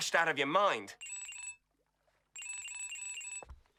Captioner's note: phone ringing